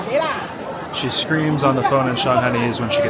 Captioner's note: Shanghainese